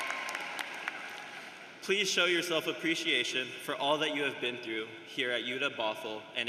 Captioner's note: cheering and applause